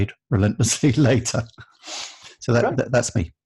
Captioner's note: laughing